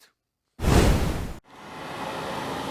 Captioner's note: hard woosh sound